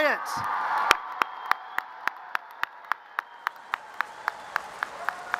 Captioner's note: audience cheers and applause